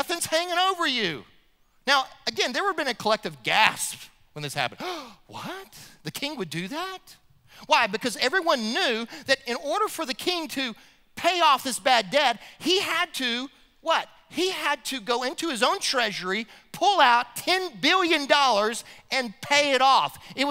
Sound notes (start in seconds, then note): 4.8 gasp